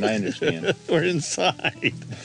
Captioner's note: laughing